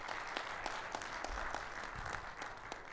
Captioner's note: audience applauds